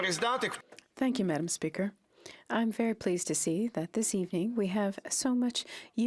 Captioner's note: speaking French